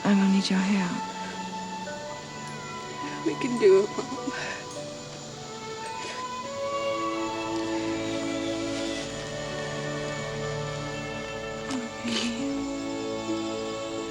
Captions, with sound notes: I'm gone need your help. - We can do it, mama. (tender music) (bird squawks) - Oh, baby.